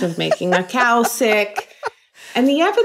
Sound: person laughing

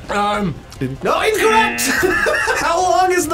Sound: laughs

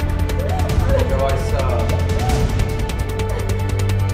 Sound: crying

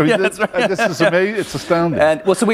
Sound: laughter

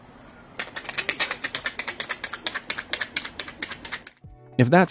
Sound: footsteps pattering

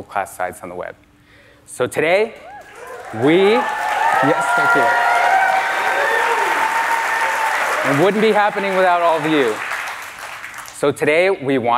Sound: applause

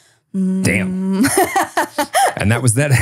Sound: laughing

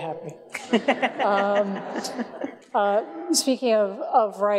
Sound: everyone laughs

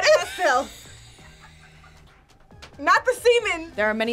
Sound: laughs

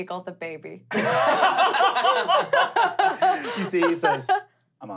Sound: laughing

